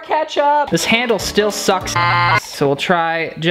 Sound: beep

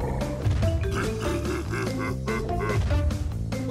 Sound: laughs

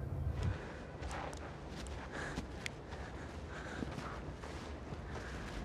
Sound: Lottie panting softly

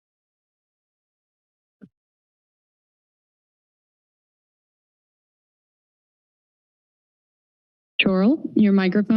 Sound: silence

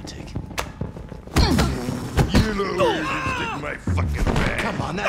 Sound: groan

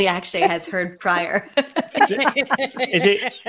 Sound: group laughing

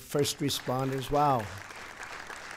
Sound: applause

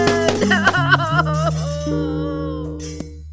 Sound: sobbing

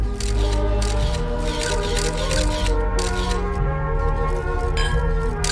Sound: camera shutter clicking

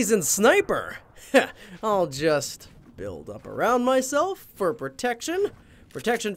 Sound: scoffs

